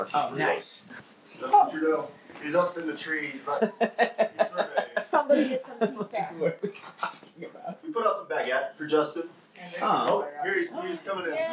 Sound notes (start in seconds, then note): 3.4 confused laughter